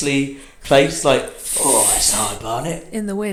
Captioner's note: blows air